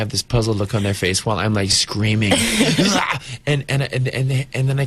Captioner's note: mock screams; interviewer laughs